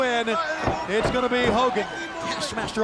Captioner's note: body slamming